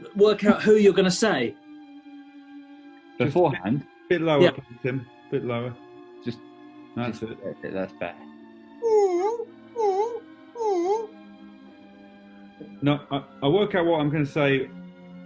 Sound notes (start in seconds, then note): 8.7 whines